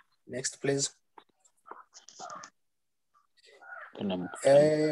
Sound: silence

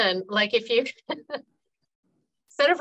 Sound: laughing

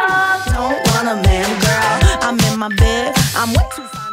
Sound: beeping

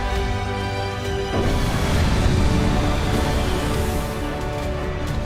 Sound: horns; ship thrusters

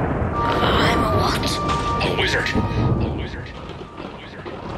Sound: thunderstorm and lightning

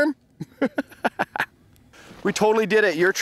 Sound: laughing

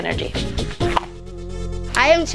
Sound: pop

